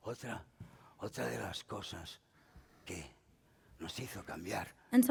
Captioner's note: speaking spanish